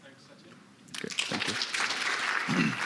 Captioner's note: applause